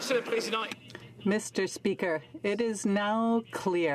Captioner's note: some Applause